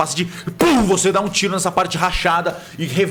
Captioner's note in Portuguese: Pow